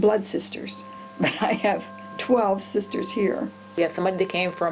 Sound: chuckling

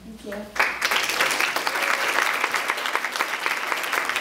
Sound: applause

